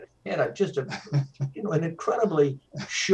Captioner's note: laughs